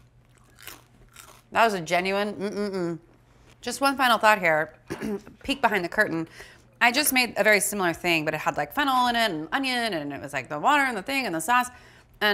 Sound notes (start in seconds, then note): 4.8 Alison clears throat